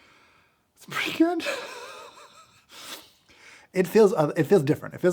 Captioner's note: laughs